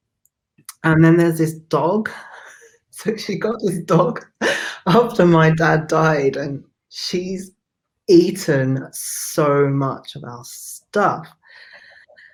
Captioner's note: laughs